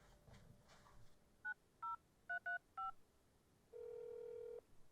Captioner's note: phone dial beeping; dial tone buzzing